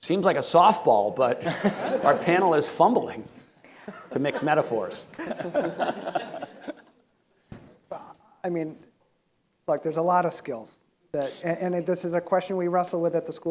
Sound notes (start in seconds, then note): 3.8 panel chuckling